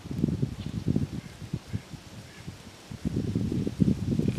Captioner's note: wind blowing